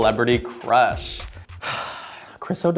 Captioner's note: sighs